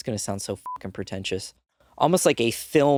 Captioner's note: beeping